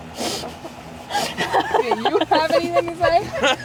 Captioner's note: group laughing